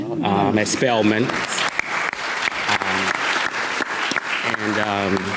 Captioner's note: audience clapping